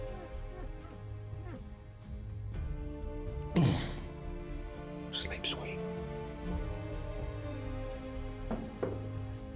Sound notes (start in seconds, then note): 3.6 shivers in disgust; 4.6 whispering